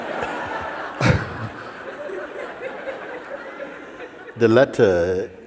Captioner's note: laughter